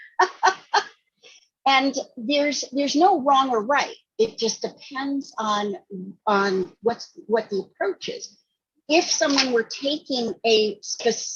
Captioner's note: laughing